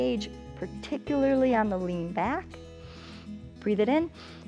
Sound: inhales

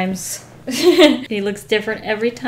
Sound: laughs

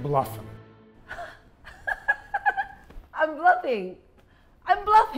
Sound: laughing

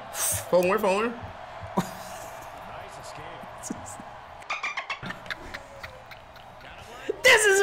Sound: laugh

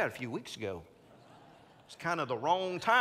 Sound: congregants laughing

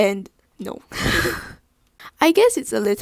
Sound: laughs

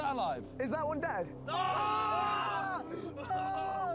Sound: all groan

